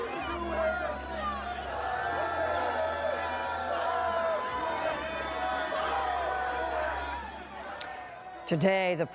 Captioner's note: shouting